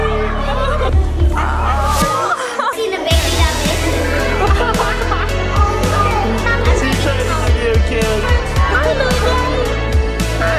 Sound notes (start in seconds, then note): 0.1 exclaiming; 2.8 upbeat music; 3.5 laughing